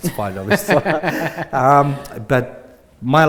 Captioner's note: both laughing